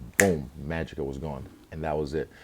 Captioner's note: snaps fingers